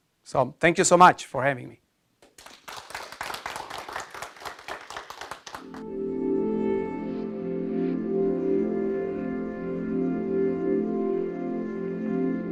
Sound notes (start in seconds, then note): 2.2 audience applauding; 5.6 peaceful music